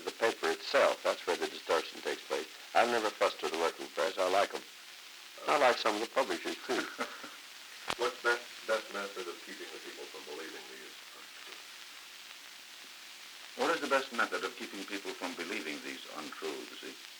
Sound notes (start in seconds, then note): 6.3 Murrow, chuckling